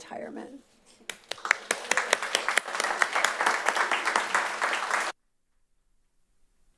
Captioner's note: applause